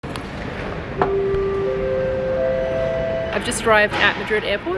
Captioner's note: bell chimes